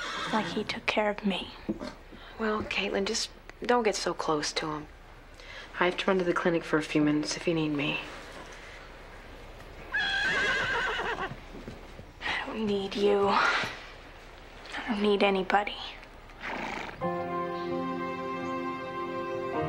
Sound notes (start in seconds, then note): 9.9 horse neighing; 17.0 soft music